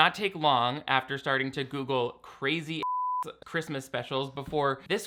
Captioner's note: beep